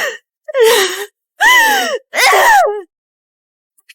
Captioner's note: screaming